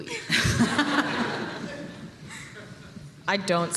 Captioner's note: laughter